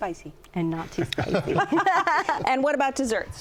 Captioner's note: laughter